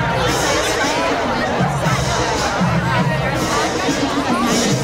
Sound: background chatter; live music

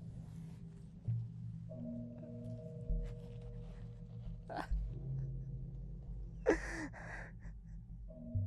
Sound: crying as music fades

